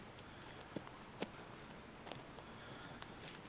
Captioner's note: twigs snapping